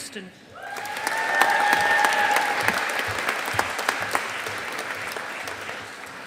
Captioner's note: audience applauding